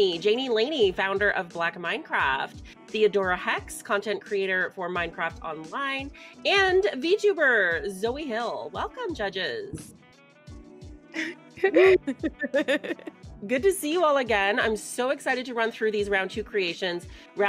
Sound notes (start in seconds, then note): 11.6 laughing